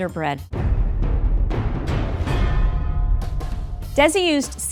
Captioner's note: dramatic thumping